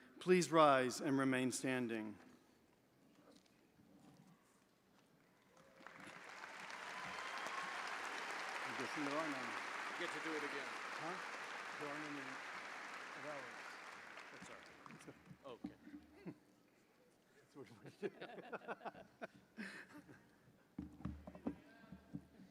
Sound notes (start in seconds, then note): 5.8 audience applauding; 5.8 audience cheering; 17.8 chuckling